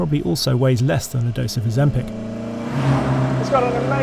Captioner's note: vehicle revs